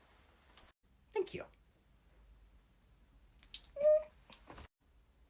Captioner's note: quiet happy squeal